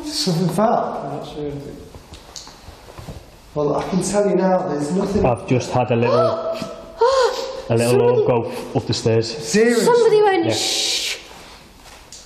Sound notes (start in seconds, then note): 7.0 gasping